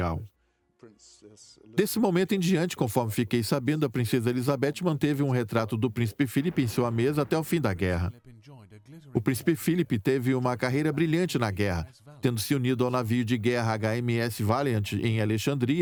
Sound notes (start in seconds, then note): 6.7 voiceover